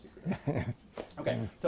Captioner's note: laughs